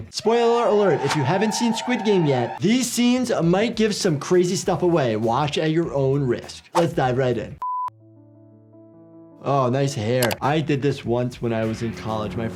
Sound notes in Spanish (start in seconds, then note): 7.6 la pantalla emite un pitido